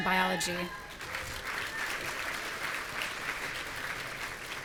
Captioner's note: audience cheering